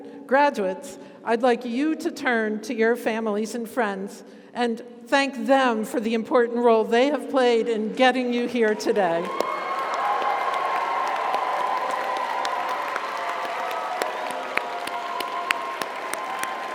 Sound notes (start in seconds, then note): 9.2 audience applauds; 9.2 audience cheers